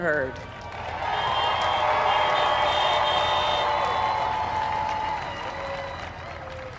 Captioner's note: applaud